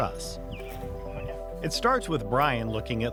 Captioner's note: birds chirping